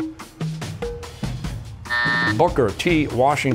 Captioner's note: buzzer